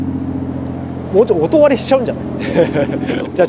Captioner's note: laughs